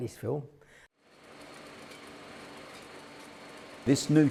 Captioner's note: film reel spins